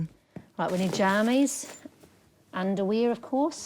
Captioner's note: rustling